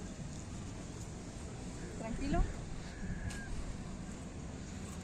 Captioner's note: woman speaks foreign language